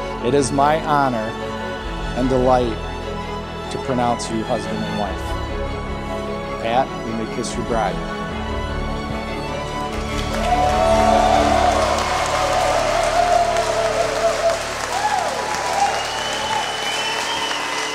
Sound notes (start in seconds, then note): 9.8 guests cheering and applauding; 15.5 guests whistling